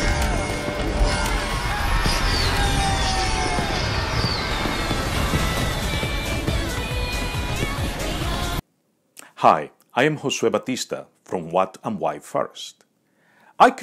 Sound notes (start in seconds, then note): 1.7 people cheering